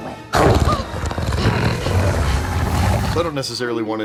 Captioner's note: growling